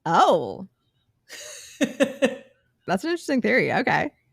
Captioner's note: laughs